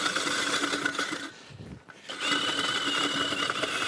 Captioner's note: drill whirring